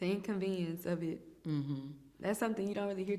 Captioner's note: hums in agreement